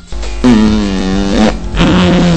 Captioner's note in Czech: Zvuk prdu